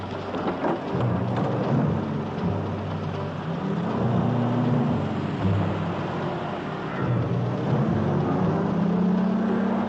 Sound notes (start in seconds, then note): 0.9 engines rumble